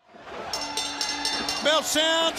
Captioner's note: bell ringing